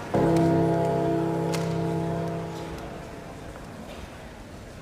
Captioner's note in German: Gong